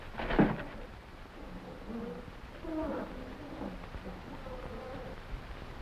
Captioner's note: box clanking; animals chattering